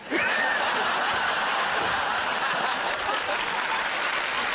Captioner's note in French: rires; applaudissements